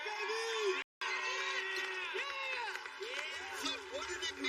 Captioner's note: cheers and applplause